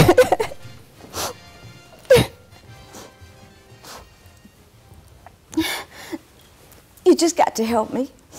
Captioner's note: crying